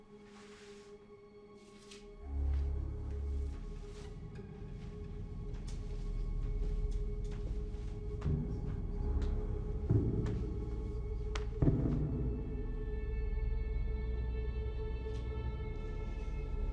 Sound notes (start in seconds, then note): 8.4 footsteps pounding in distance; 13.9 ominous music